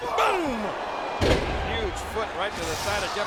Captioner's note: body thuds